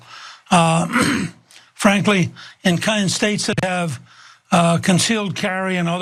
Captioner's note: cough